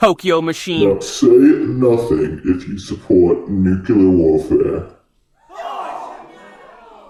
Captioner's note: gasps